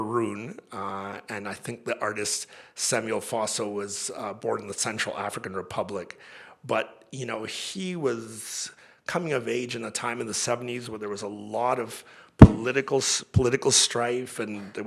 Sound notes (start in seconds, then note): none